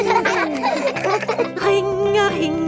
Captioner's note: giggling